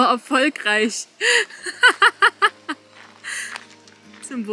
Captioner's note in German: Lachen